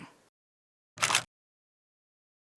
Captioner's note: camera shutter